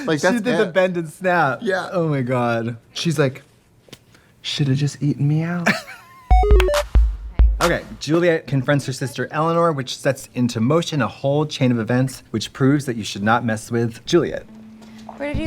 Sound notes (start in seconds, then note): 5.6 Katya laughing; 6.3 bright electronic music